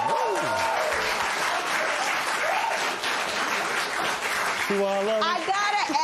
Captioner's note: cheering and applause